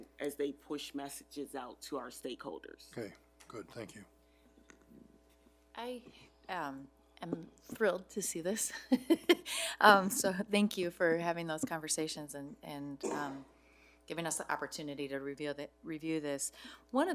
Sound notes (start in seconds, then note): 9.2 laughs